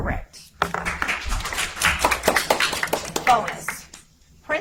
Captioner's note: audience applauds